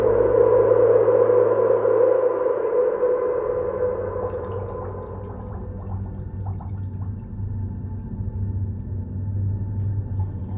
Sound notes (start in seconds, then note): 1.4 water dripping